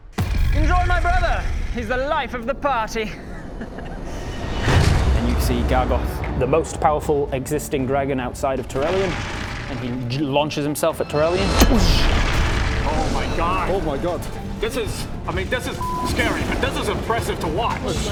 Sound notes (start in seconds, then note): 3.1 smug bad guy laughter; 10.8 doosh!